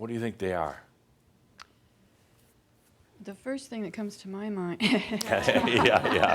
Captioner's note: laughter